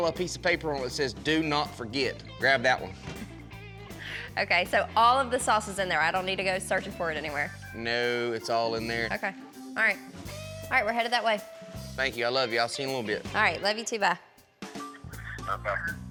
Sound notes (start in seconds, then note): 3.1 giggling